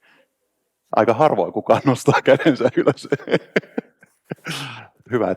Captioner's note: laughs